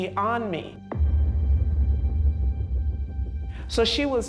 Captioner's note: loud bang